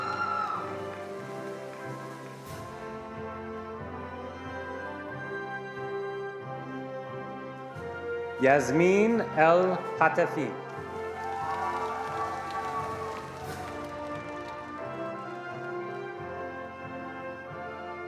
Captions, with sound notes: Yasmine El Hatafin. (attendees applauding)